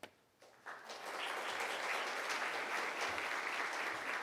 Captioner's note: clapping